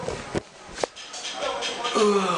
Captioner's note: yawn